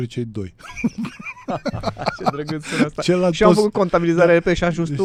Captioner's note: laughter